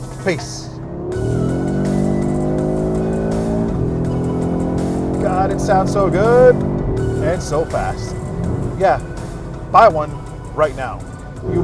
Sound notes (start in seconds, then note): 1.8 engine revving